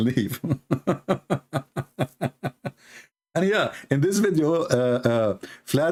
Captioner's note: Ketawa